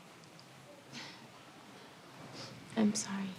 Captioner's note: chuckles softly